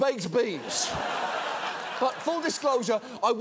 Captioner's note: audience laughs